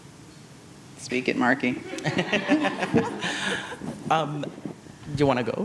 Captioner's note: audience chuckles